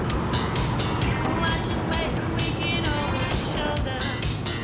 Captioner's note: tires screech